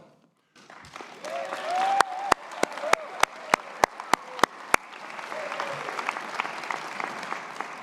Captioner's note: audience applause